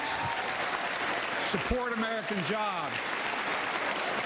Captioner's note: applause